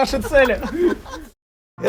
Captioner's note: laughing